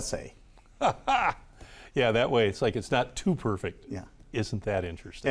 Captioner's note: laughs